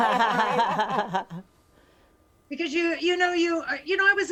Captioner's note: hosts laugh